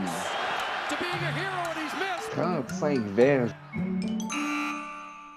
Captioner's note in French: commentaire en anglais